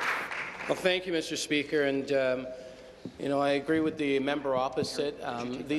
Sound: applause

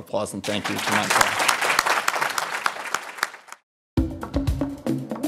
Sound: audience applauding; upbeat music

